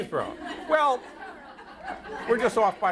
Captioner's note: audience laughter